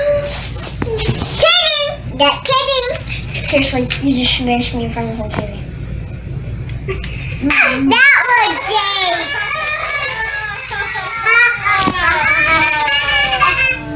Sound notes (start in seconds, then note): 6.8 chuckles